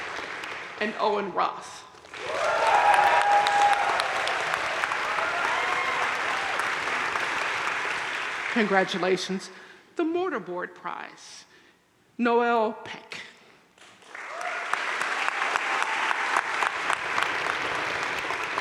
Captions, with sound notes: and Owen Roth. (audience cheering and applauding) Congratulations. The Mortar Board prize. Noelle Peck. (audience cheering and applauding)